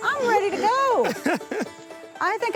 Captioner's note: laughs